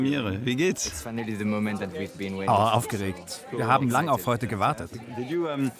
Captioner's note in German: englisch